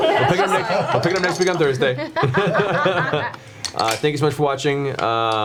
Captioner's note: all laugh; laughs